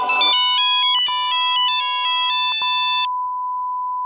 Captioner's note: electronic game beeping